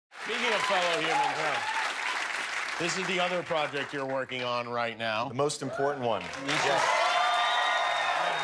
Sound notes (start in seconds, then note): 3.8 applause